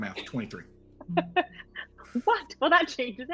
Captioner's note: laughs